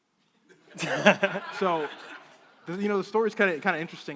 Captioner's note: crowd laughing